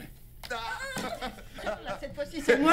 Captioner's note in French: Rires